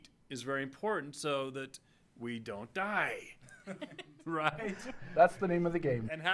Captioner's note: laughing